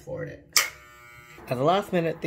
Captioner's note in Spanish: cortaúñas zumbando